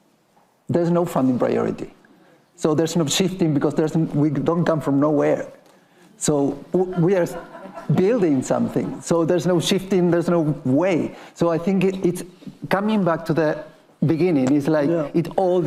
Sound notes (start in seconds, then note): 6.7 attendees laughing